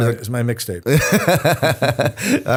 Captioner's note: laughter